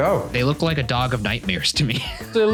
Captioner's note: laughing